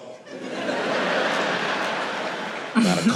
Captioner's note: audience laughing